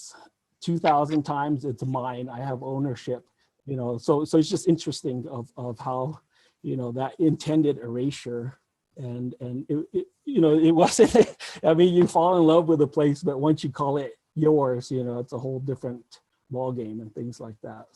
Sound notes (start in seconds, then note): 10.3 laughs